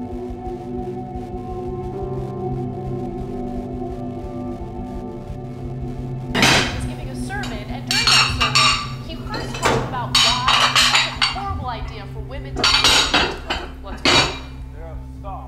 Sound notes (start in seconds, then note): 6.4 banging; 7.3 tv playing; 8.2 glass clanking